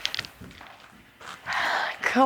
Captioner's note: sighs